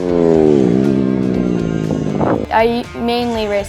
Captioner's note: engine whizzing